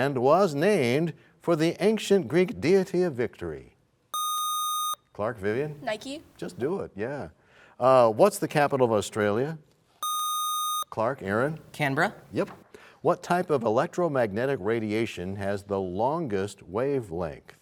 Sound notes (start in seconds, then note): none